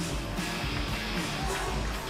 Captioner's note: bell ringing